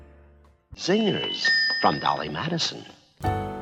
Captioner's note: ding